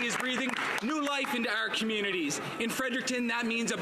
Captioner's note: some Applause